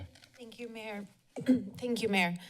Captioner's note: clears throat